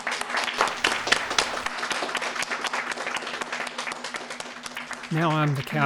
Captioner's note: applause